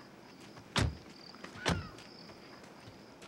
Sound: bird caws in distance

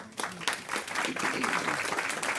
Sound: clapping

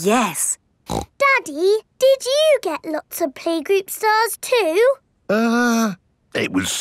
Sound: snorts

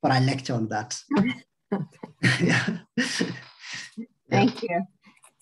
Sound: laughing

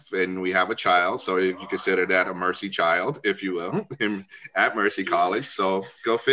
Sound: laugh

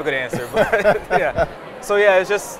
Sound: laughter

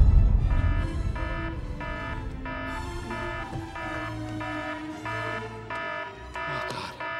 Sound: instrumental music playing; emergency alarm beeping

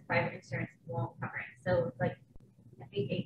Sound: none

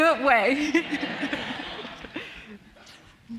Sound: audience laughing

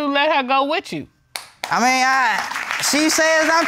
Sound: audience clapping

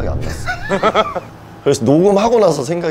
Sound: laughing

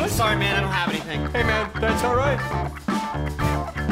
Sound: speaking

